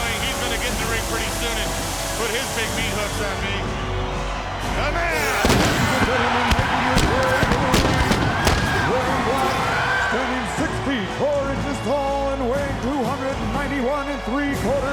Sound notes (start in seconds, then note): 5.1 fireworks popping; 6.6 crowd cheering drowns out Buffer